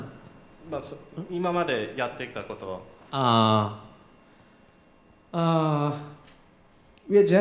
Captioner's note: japanese